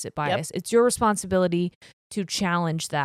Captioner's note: none